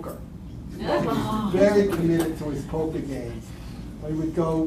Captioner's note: laughter